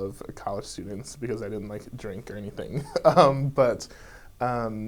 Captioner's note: laughs